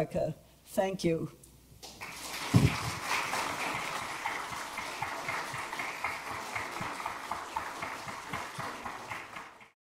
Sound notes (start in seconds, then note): 1.8 audience applauds